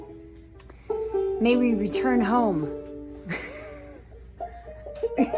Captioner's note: laughs